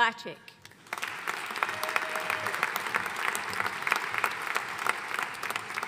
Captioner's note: audience cheering and applauding